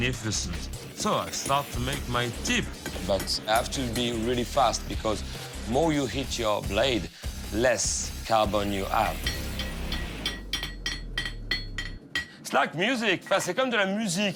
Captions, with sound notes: So I start to make my tip, but I have to be really fast. Because more you hit your blade, less carbon you have. [clanking] it's like music. [french] music.